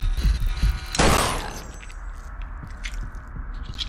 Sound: gunshot

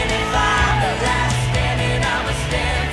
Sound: cheering

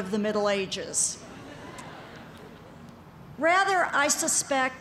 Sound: laughter

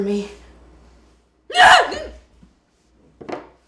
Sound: screams again

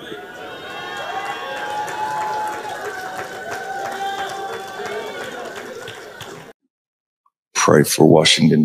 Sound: crowd shouting and clapping

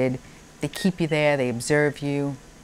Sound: monitor beeping

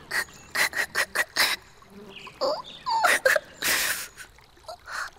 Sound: Blinky whimpering

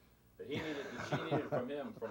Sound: chuckles

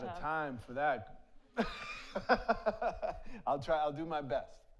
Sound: laughs; audience laughs

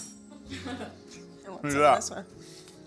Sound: laughing

